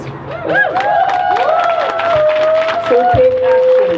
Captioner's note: crowd cheers